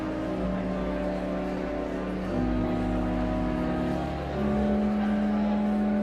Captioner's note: audience chattering continues